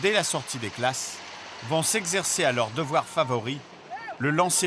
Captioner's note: Hebrew spoken audio